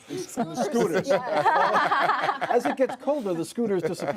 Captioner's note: laughter